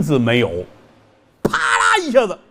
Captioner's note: thud